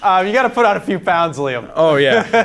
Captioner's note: host laughing